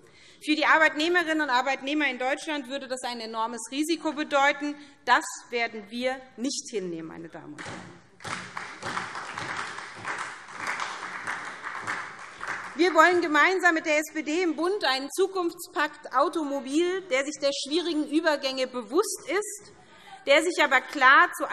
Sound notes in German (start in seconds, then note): 7.6 Beifall SPD